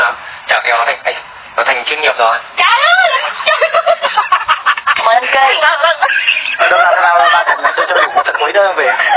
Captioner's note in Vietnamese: Tiếng cười